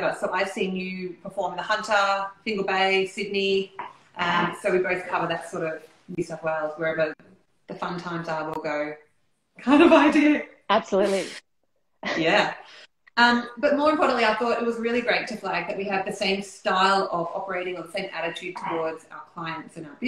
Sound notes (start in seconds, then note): 9.9 laughing